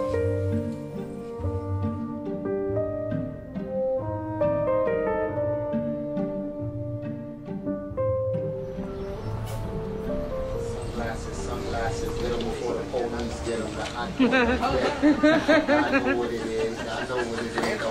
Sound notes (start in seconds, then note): 9.3 din of city noises in background; 12.7 background chatter; 14.2 laughter